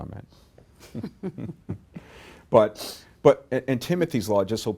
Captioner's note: laughs